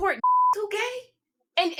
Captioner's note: beep